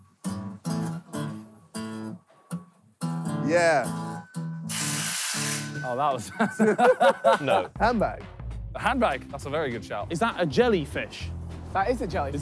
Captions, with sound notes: Yeah. [truck hissing] - Oh, that was. - No. - Handbag. - The handbag, that's a very good shout. - Is that a jelly fish? - That is a jelly.